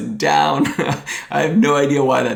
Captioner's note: chuckles